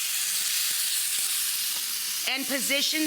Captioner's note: pan sizzling